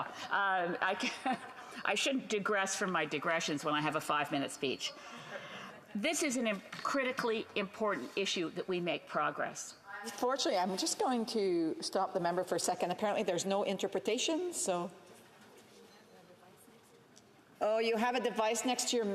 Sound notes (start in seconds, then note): 1.5 speaking FRENCH